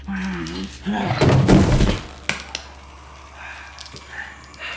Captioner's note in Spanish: golpes en el cuerpo